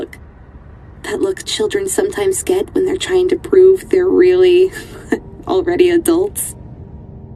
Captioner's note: laughs